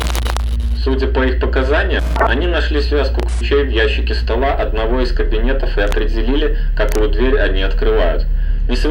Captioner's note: static